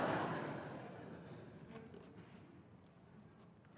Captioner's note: laughter